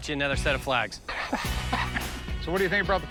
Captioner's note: laughs